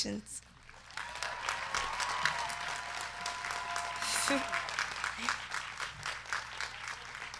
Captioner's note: crowd clapping; crowd cheering